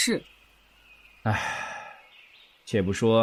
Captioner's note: Lanyuan sighs